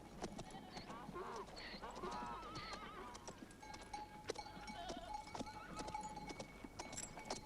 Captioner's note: donkey braying; goats bleating